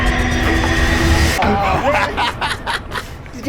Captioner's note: laughing